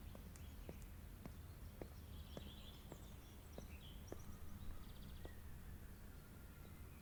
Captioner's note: birds chirping; footsteps thumping